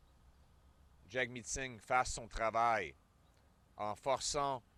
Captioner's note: French